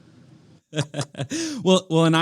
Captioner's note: laughs